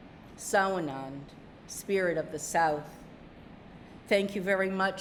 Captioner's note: speaking narragansett